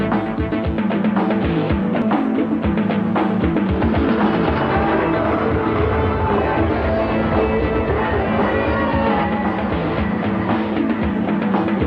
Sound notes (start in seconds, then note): 3.8 explosion booming; 8.9 rails screeching